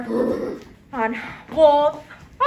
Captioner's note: fairy howls